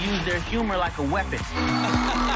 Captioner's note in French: laughing